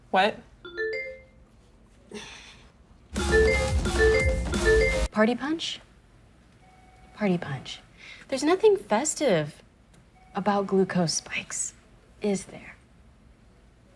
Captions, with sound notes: - What? (electronic notification pings) (notifications ping frantically) - Party punch? Party punch. There's nothing festive about glucose spikes, is there?